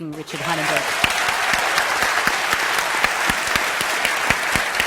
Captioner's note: applause